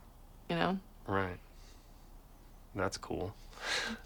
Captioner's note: chuckles